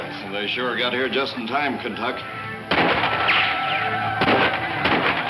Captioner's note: incessant gunshots